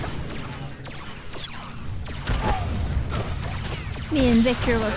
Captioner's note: gunfire